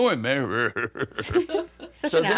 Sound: imitates Sylvester's laugh

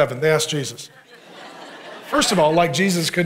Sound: congregation laughing

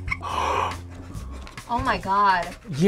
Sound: laughs; both gasp

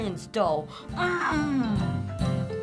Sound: grunts boastfully; end music

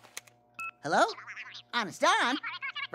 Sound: chattering

